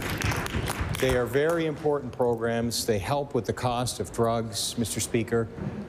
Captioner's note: applause